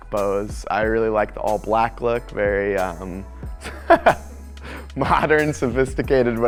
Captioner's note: laughs